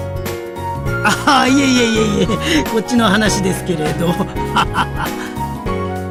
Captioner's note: laughs